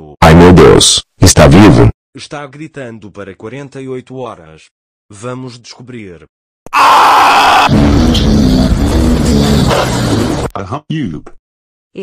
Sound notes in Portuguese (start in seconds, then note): 7.1 gritando; 7.6 explosão